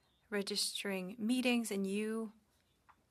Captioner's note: speaking French